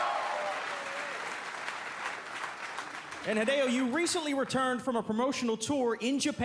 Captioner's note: cheers and applause